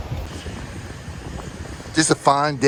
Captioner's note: wind whooshing